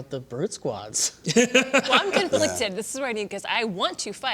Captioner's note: laughter